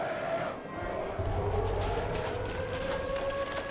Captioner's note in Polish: dźwięk syreny alarmowej